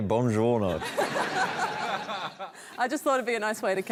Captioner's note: laughter